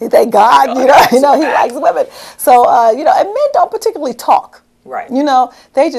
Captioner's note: laughter